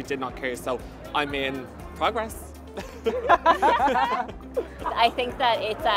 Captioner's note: laughs